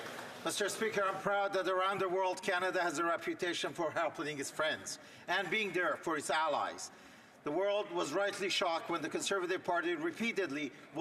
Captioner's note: some Applause